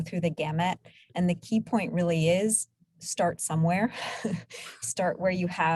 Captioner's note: chuckles